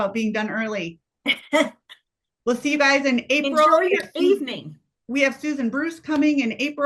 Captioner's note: laughs